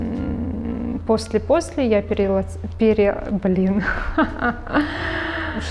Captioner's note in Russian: смеется